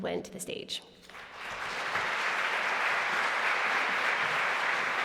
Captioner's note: applause